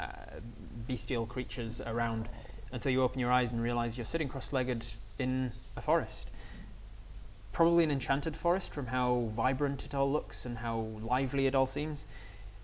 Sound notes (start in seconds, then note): none